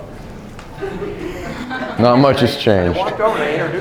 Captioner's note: laughter